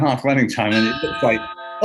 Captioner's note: gong